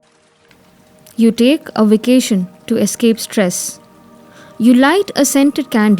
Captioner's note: water flowing